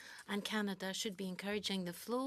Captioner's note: speaking French